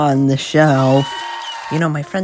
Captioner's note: screaming and not applauding